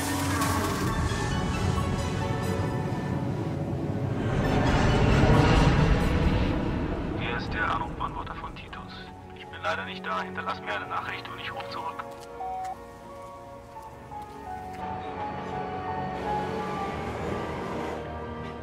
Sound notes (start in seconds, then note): 0.7 turbine noise